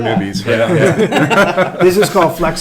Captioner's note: laughing